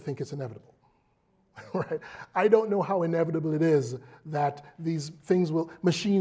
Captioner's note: laugh